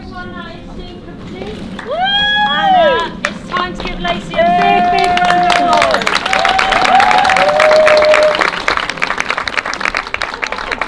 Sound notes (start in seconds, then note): 1.8 cheering; 6.0 cheering